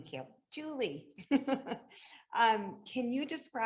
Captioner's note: laughs